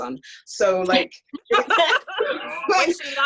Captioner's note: laugh